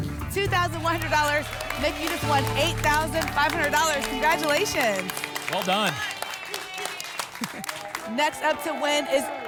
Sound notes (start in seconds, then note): 6.8 applause and cheering